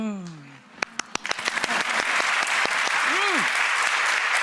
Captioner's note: applause